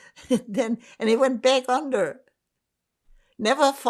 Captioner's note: laughing